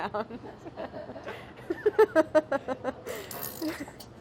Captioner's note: laughing